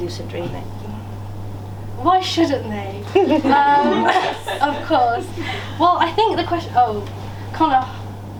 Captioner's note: laughter